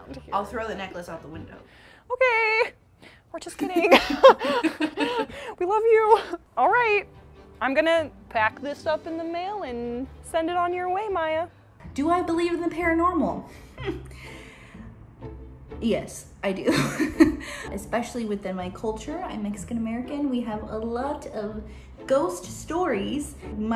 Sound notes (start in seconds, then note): 3.8 chuckles; 16.7 chuckles